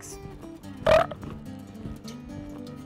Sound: belch

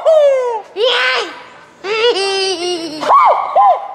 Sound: spooky laughing; yells and laughs; spooky laughing

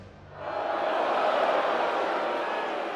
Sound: crowd boos

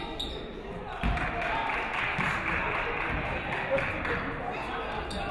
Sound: audience clapping

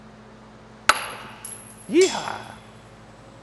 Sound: hammer bang; metal clings

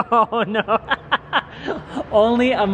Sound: laughing

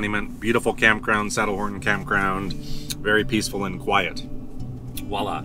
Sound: none

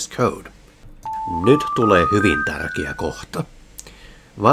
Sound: attention tone

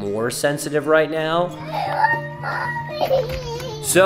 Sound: crying

